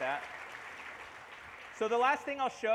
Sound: applause

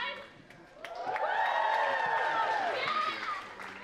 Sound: audience cheers and applauds

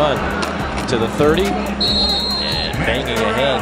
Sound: whistle blows

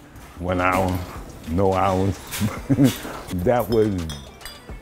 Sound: giggling

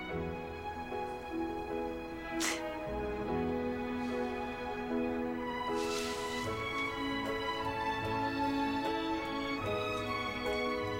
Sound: sniffles

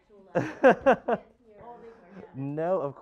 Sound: instructor laughing

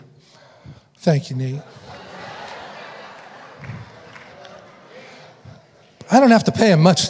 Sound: audience laughing

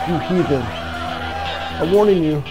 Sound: cheering

